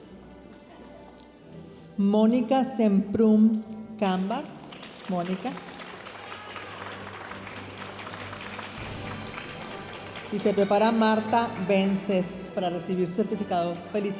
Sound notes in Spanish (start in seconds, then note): 6.2 aplausos de la audiencia